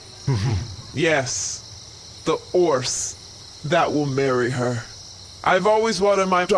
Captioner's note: Frooho neighs